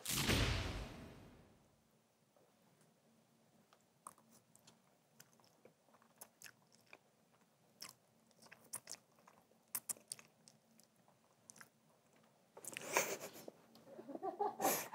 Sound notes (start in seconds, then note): 7.3 eating as loudly as possible for others; 13.8 bursts out in laughter